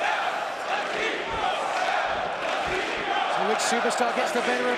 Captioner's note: crowd cheering